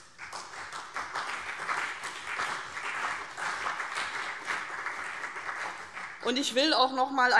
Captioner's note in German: Beifall CDU und BÜNDNIS 90/DIE GRÜNEN